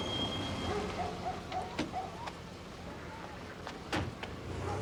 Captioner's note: dog barking